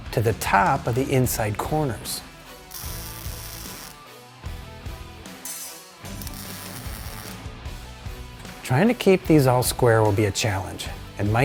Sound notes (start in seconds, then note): 3.1 intense rock music; 3.1 tool whirring